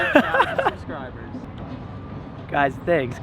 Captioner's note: laughs